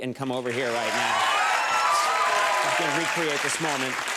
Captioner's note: crowd cheers